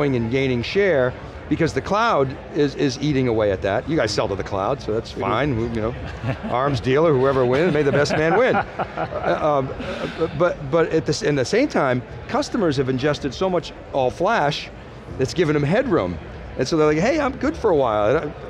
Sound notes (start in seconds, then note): 8.6 man laughing